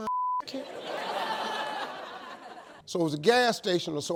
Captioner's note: audience laughs